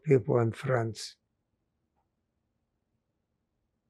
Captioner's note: pauses 8 seconds